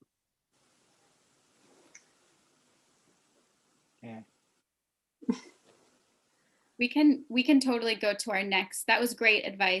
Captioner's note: laughter